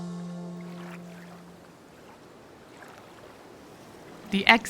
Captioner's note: lively music; water lapping